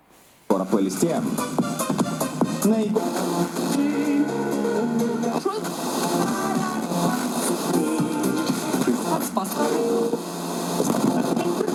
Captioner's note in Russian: Звук радиостанций, музыка